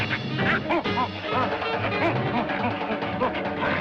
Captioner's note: cackles